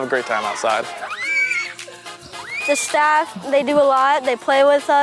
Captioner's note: children cheering